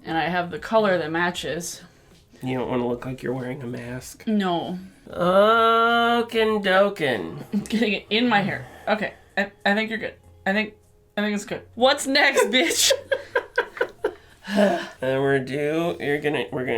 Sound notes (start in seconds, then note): 12.3 laughter; 14.2 audible sigh